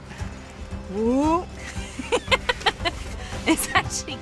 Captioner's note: laughs